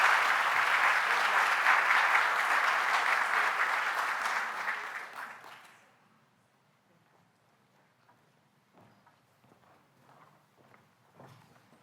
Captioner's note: applause